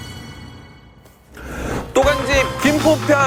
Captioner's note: inhale